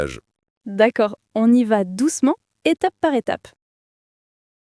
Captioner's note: laughs